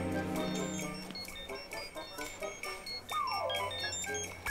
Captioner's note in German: Telefon klingeln